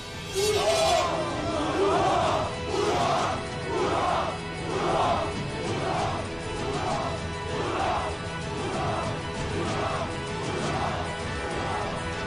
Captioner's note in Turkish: Kılıç sesleri; Bağırıyorlar